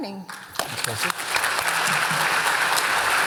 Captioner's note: applause